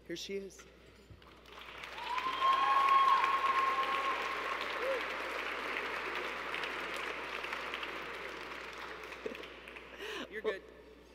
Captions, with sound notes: Here she is. [Cheers] -You're good.